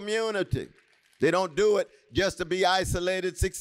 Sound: applause

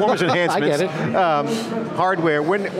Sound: laughs

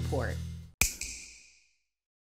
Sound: snap

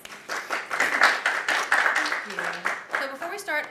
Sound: applause

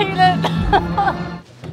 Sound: laughter

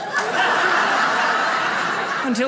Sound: audience laughs

